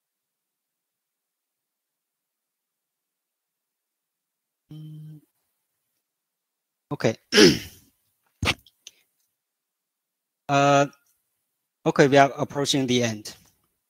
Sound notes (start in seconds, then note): 1.9 尬之停顿